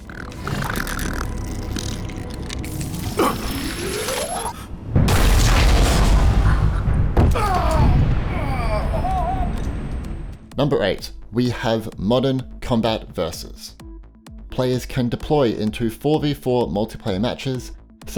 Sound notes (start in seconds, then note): 0.0 growling; 0.2 intense music; 5.1 explosion and moaning